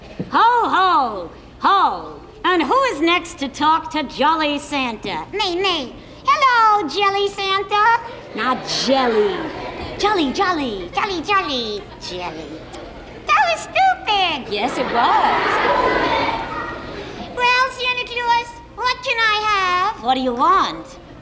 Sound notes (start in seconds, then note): 14.3 audience laughs